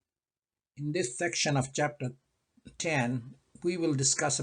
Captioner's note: voiceover